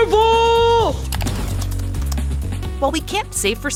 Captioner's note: keyboard clicking